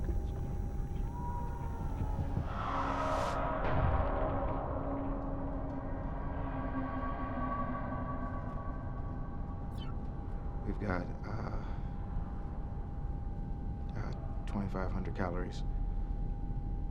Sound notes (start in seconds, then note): 0.7 faint whispering